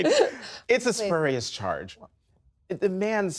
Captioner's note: laughter